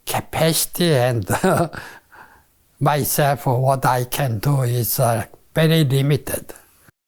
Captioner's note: laughs